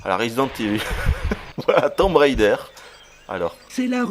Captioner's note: laughs